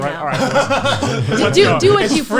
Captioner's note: laughs